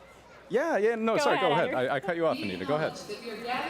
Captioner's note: laughter